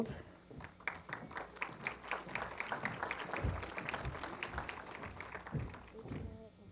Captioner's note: applause